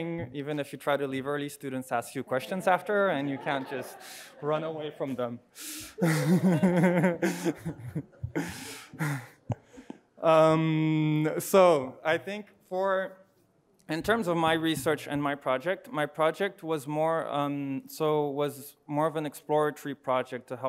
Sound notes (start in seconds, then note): 5.9 laughing